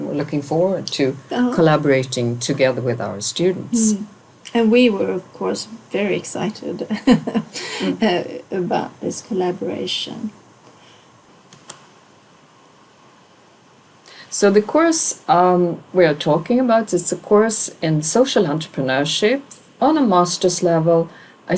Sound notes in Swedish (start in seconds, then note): 7.0 skrattar